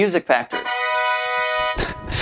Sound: horn blasting

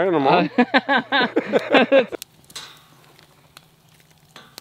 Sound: laughing

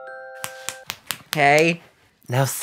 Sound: lullaby; snaps

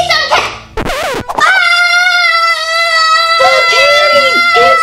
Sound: assistant screams

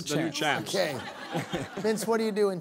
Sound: laughter

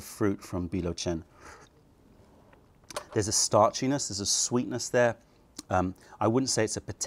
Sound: sips tea

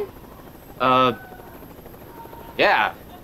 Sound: screaming

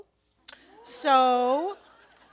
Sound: laughter

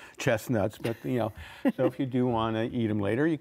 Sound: laughs

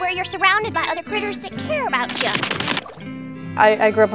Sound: running footsteps

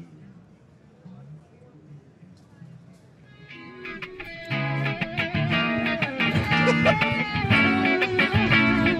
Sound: laughter

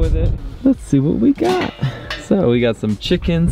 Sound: lid clanking

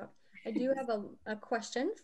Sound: laughs

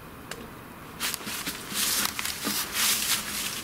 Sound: leaves crack

